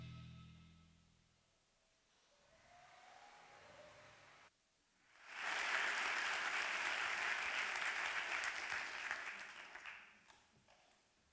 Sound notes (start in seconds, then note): 5.1 applause